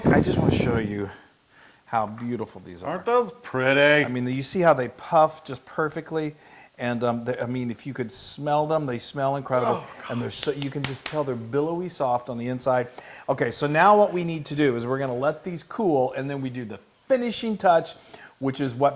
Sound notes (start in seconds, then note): 10.2 applause